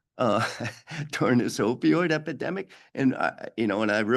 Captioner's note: chuckles